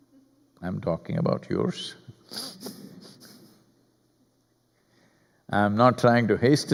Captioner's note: laughs